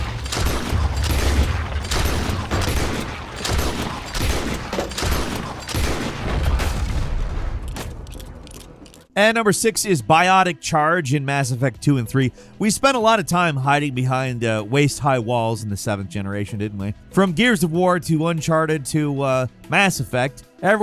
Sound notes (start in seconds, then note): 4.5 gunfire banging continues; 7.6 gun cocking